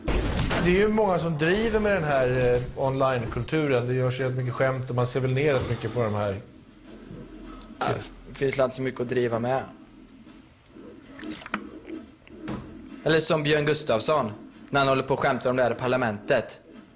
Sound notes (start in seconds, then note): 7.8 burp